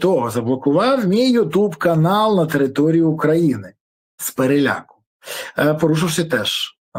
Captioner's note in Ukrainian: сопіння